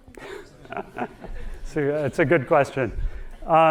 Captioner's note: audience laughing